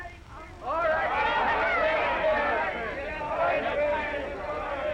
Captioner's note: all shouting